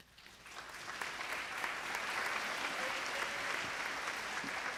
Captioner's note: applause